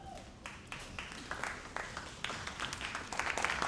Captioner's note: all applauding